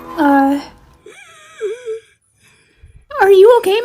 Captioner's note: lady struggles to breathe